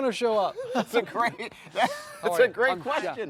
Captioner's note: laughs